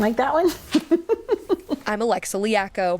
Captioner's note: chuckling